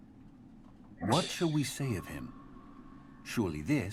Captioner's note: scoffs